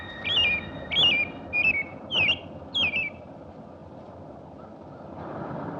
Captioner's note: bird chirping